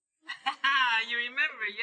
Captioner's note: laughing